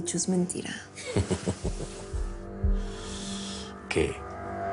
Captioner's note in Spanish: Risas